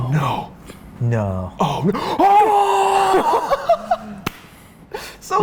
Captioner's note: incoherent Freaking Out Ensues